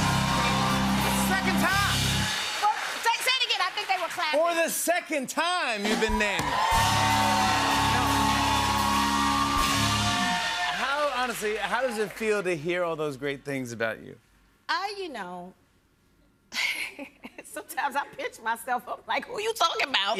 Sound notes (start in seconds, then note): 5.8 cheers and applause; 16.0 chuckles